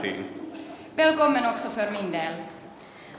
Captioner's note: speaks Swedish